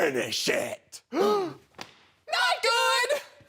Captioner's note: loud exhale; slap sound